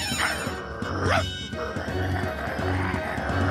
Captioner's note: alarms ringing; growling, barking viciously